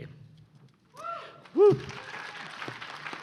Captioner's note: applause